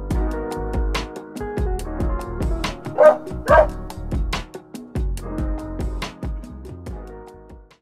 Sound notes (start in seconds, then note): 2.8 dog barks